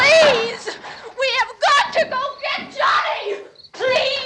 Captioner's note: screaming